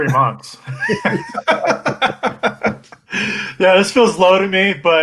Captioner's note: laughs